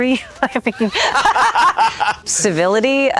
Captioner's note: Anne and Ewan laughing